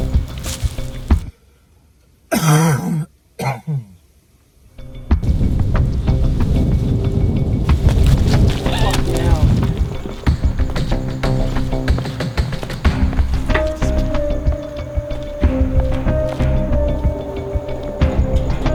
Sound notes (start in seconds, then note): 3.4 cough